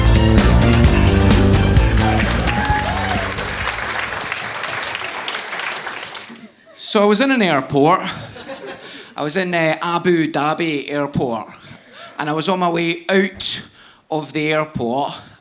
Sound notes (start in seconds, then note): 2.4 audience applauding